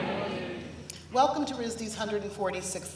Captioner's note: applause